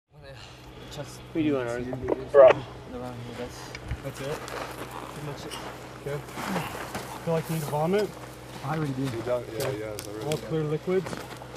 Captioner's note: radio traffic and ill firefighter having conversation with paramedic